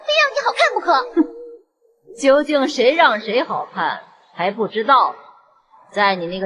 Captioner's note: laughs sarcastically